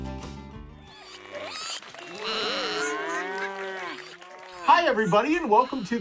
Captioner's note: animals applauding